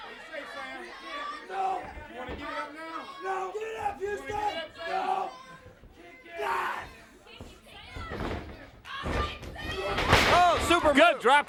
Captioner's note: crowd chatter